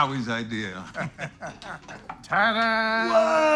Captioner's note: laughing